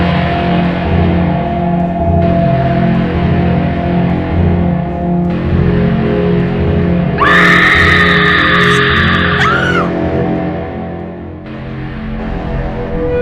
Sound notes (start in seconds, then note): 7.1 screaming